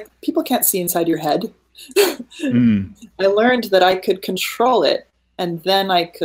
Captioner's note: laughing